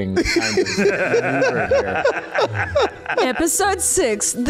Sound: laughs

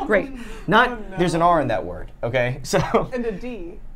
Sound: laughs

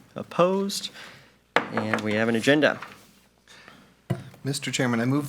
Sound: gavel taps

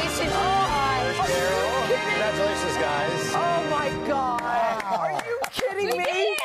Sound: applause

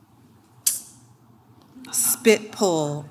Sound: clicks

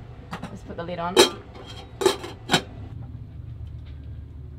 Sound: lid clanks

